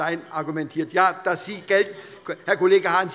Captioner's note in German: Zurufe von der CDU und der FDP